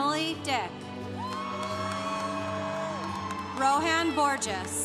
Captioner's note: congregation cheering